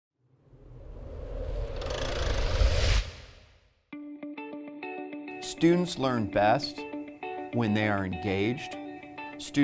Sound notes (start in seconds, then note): 0.4 air whooshing; 5.3 upbeat music